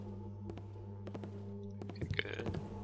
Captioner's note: footsteps on wood; footsteps grow louder